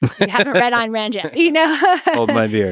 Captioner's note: Lex and Jennifer chuckle